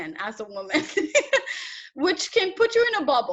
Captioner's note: laughs